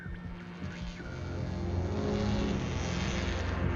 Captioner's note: electric zapping